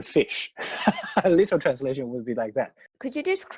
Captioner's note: laughs